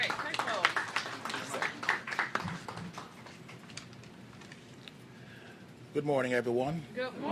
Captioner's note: applause